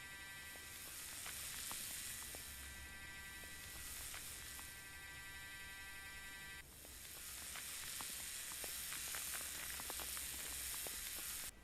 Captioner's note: mechanical drilling/vibrating noise